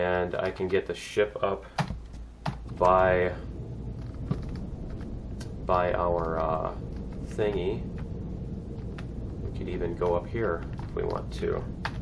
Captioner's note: mouse wheel scrolling